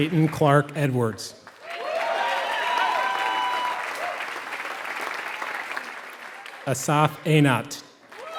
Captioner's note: applause